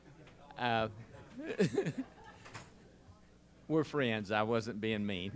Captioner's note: laughs